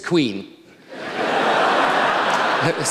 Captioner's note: laughter